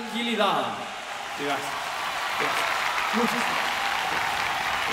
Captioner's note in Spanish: Aplausos